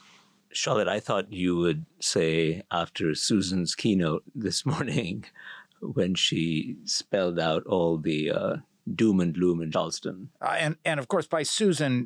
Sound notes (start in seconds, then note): 4.4 laugh